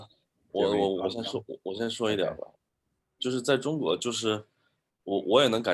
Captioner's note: speaking in foreign language